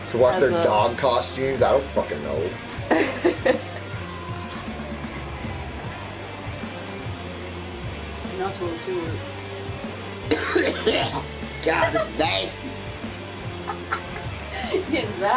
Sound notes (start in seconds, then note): 3.6 rock music; 10.2 Johnny coughs